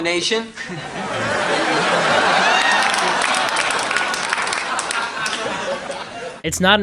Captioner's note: audience laughter